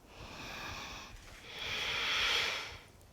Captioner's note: breathing